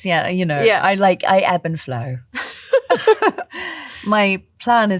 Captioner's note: laughter